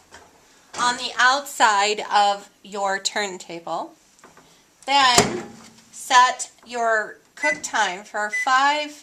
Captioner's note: beeping